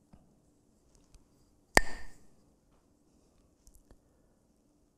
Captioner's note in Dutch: klakt met stokjes